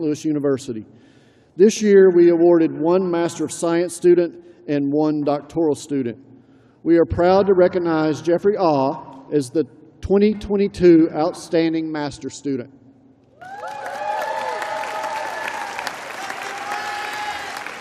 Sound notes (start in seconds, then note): 4.1 cheers and applause